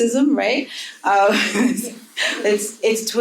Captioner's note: panel chuckling